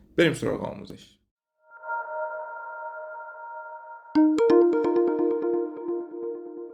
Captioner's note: pleasant intro sound